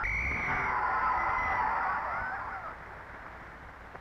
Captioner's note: referee whistling